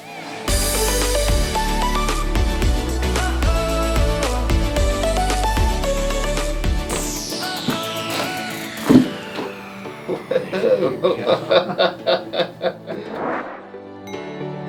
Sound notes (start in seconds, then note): 0.2 upbeat music; 8.0 bones crack; 10.0 patient laughs